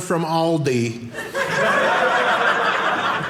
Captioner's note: audience laughing